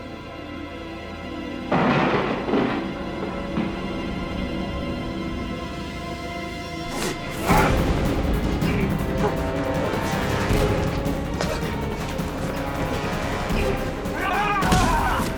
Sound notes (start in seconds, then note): 1.7 loud crashing; 7.2 dramatic music; 13.2 shouting